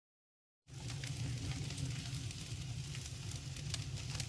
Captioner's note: flames crackle